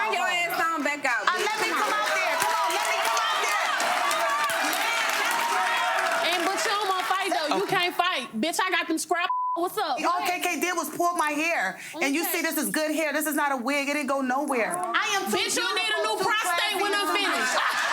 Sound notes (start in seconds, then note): 5.0 audience applauding; 9.3 beep